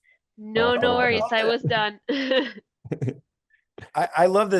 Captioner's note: laughs